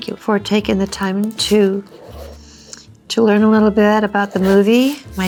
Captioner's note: pen writing